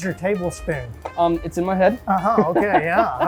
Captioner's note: laughing